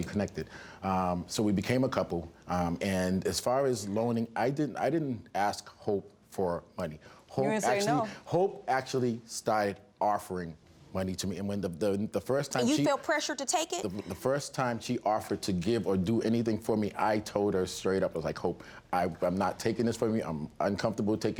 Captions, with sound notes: Um, so we became a couple and as far as loaning I didn't ask Hope for money. You didn't say no. Hope actually, Hope actually started offering money to me. (STAMMERING) And you felt pressured to take it? The first time she offered to give or do anything for me I told her straight up. I was like, "Hope, "I'm not taking this from you "I'm uncomfortable taking money